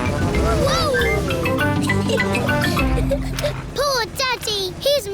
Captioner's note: giggles